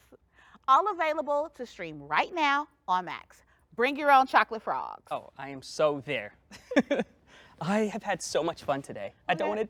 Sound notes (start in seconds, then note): 5.7 laughs